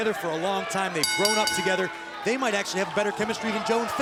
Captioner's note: bell ringing